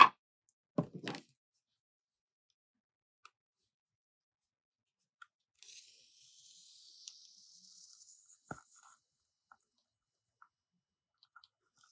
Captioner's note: lighting candle